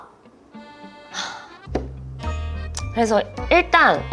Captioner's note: deep sigh